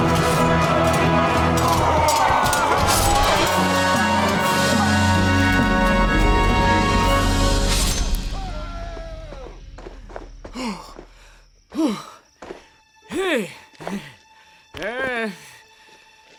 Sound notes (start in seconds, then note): 0.1 swords clanging; 4.8 triumphant music; 10.4 heavy breathing